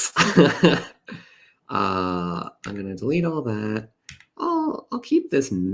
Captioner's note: laughs